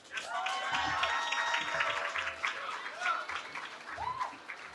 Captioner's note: cheering